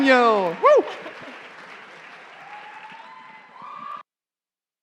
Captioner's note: cheering and applause